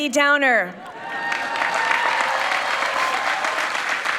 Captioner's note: people clapping